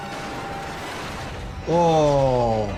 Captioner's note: car crashes; suspenseful music